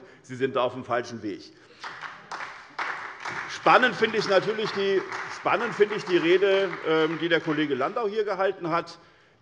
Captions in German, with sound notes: Sie sind da auf einem falschen Weg. [Beifall bei der SPD und bei Abgeordneten der LINKEN] Spannend finde ich natürlich die Rede, die der Kollege Landau hier gehalten hat.